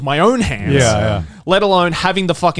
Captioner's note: affirmative murmuring